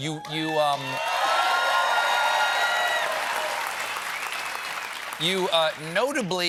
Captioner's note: cheers and applause